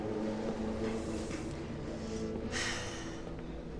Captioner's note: sigh